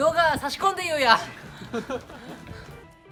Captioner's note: laughs